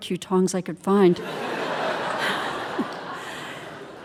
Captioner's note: audience laughing